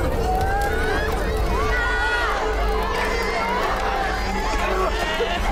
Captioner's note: crying and screaming